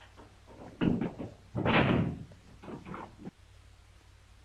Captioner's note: door thuds